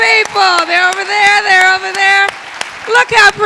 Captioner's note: everyone clapping